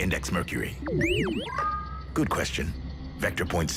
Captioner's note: electronic tones